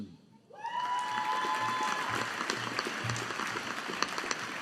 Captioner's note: audience applauding